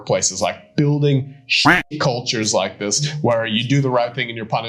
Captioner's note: duck quacking